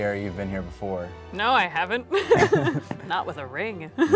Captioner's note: couple laughs